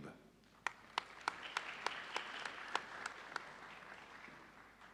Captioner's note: audience applauding